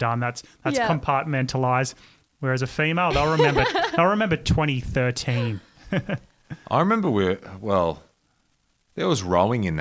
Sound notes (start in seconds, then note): 3.1 laughs